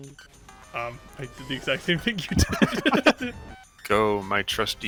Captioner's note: laughs